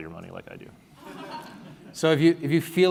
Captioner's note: laughing